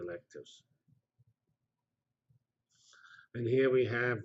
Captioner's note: pause